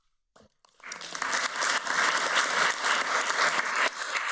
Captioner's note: audience applauds